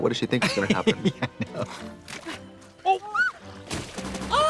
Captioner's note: laughing; both gasping